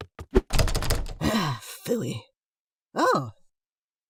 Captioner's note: sigh